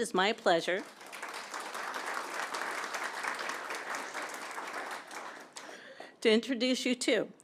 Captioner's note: applause